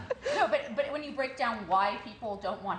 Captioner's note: laughter